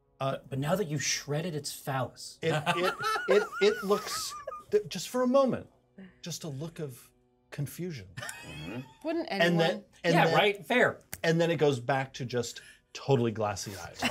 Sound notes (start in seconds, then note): 2.5 speaker laughs; 8.2 speaker laughs